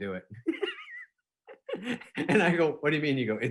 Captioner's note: laughing